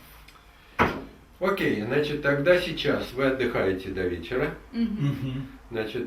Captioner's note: speaks in the Russian language